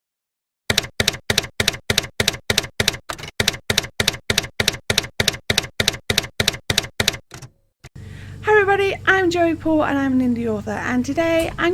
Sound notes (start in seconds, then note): 0.7 typewriter keys clacking